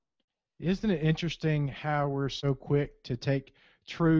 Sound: voiceover

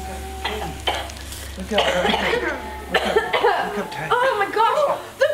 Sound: coughing

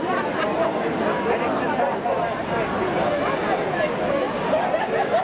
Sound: excited chatter

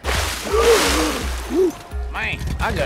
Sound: gasps

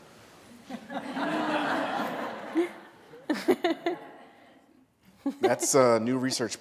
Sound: laughter

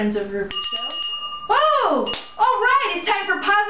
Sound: bell ringing

